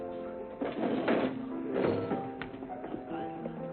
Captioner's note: chairs dragging